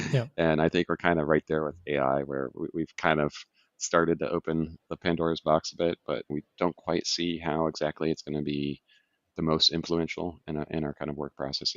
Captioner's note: laughs